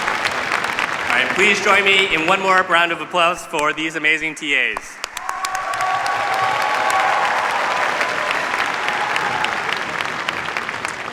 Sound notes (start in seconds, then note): 4.4 cheers, applause